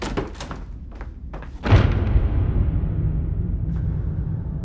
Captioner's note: door slams